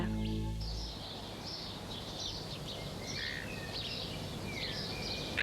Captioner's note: birds singing